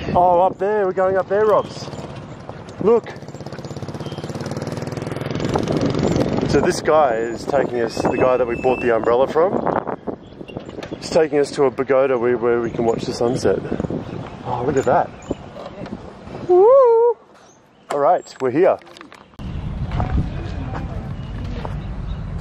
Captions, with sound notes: Oh up there, we're going up there Robs, look. (engine roaring) So this guy is taking us, the guy that we bought the umbrella from, he's taking us to a pagoda where we can watch the sunset. Ah, look at that. Woohoo! All right, we're here. (feet crunching)